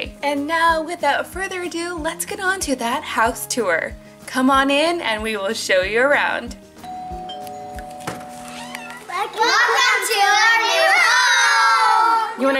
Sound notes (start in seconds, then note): 6.8 door bell rings